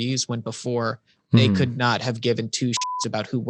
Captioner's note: beep